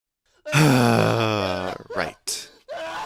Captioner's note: sigh